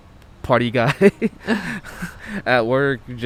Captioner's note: both laughing